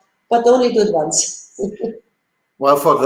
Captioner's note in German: Lacht